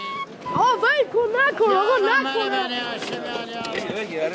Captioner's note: Arabic spoken language